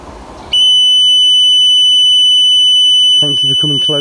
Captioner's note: beeping